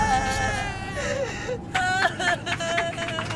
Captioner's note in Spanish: Llanto de bebé; Aplausos